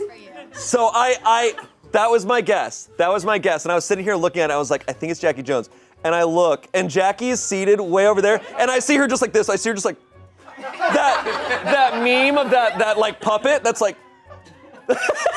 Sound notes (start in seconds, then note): 10.4 audience laughing